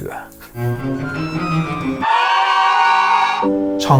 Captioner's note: screaming